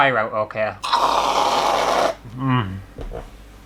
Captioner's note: pshhhhh